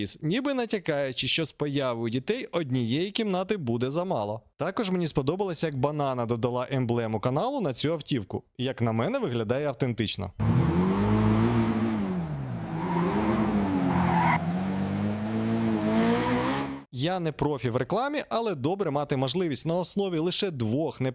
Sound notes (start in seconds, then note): 10.5 car engine sound